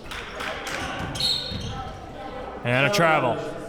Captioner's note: whistle blows